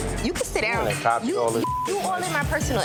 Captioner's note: beep